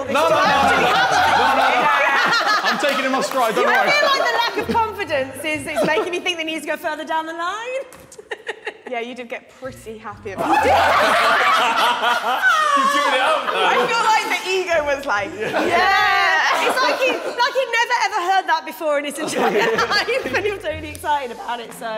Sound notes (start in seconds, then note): 10.4 Sidemen laughing